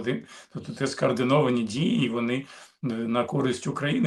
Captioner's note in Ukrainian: прочищення горла